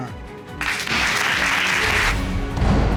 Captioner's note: audience applauding; dramatic music playing